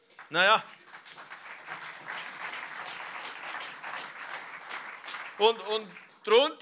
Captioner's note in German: Applaus